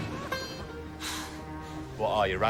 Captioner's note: sighs